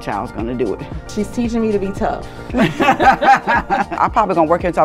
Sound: laughs

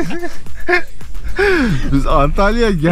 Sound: laughs

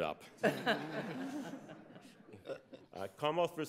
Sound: laughs

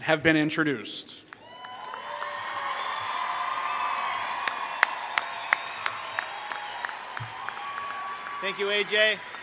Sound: applause

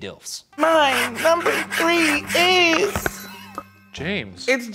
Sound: nails scraping

